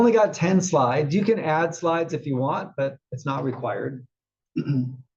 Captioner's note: cough